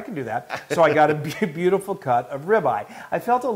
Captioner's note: laugh